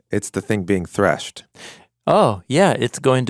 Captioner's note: none